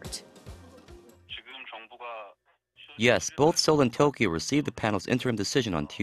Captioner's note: Korean